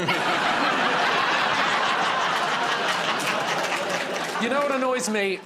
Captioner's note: laughter